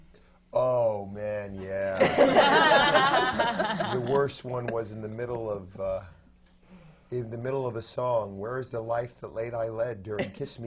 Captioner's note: laughter